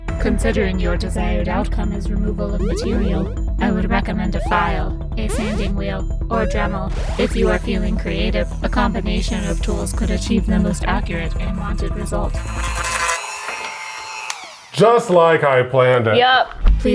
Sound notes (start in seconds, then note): 12.5 dremel whirring